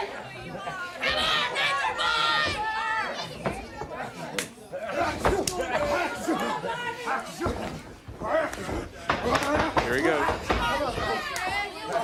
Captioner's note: crowd cheering